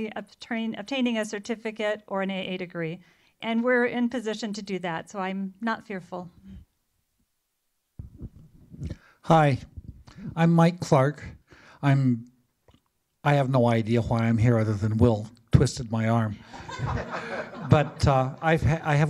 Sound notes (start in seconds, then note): 16.4 laughter